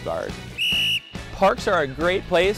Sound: whistle blowing

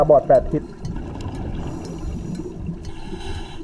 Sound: water flowing; breathing

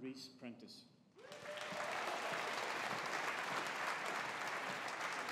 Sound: audience applauding

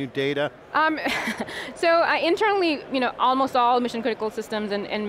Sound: laughs

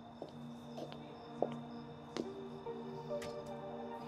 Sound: crickets chirping; soft piano, violin music

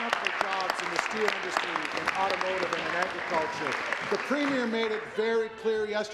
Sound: applause

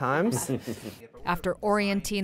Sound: laughter

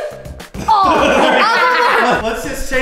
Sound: all laughing

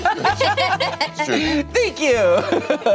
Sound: laughing

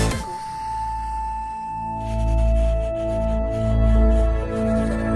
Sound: calm electronic music; pencil scratching

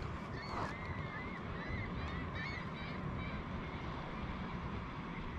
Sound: seagulls calling

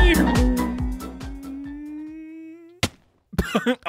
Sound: imitating boat engine; laughing

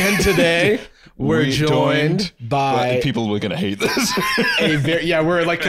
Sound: laughing

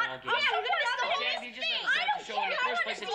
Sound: arguing loudly

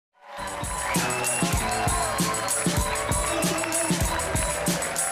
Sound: audience cheer and applaud

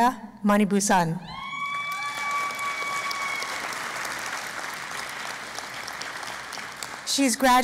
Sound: cheering and Applause

